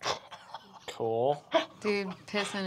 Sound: laughs breathlessly

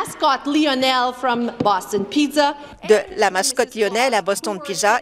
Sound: speaking French

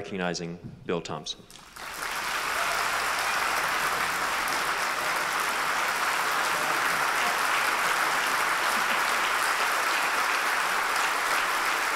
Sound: applause

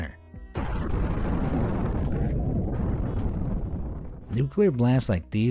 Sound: nuclear bomb booms

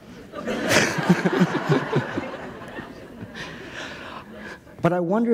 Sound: laughter

